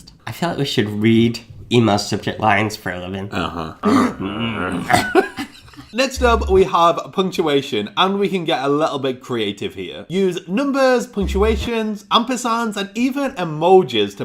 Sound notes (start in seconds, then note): 3.3 growling